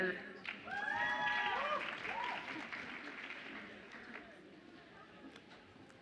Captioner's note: audience applauds and cheers